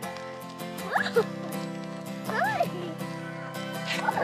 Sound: laughs

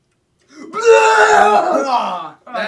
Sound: vomiting noise

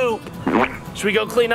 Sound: fart

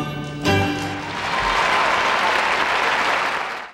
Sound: audience cheering and applauding

